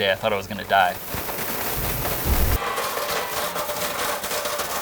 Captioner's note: blender crackling